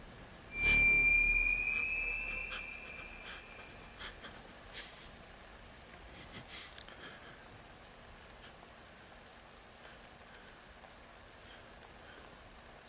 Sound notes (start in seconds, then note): 0.5 dramatic music; 3.4 Laurie whimpering softly